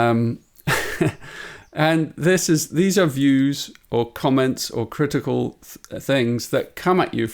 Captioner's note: laughs